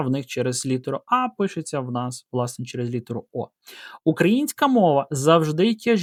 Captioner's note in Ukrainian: сопіння